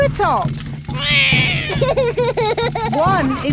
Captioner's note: laughs; roars